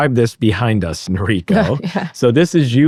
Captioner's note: laughs